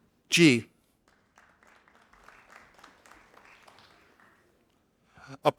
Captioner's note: audience applauding